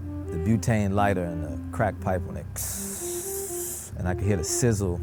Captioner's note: breathes in